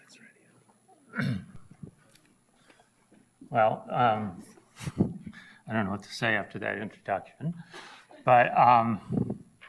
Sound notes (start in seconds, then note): 1.0 ahems